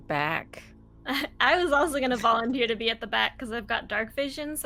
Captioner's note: chuckles